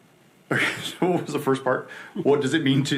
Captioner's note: laughs